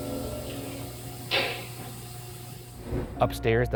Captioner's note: object bangs; object knocks